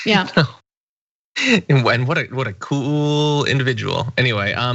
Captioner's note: laugh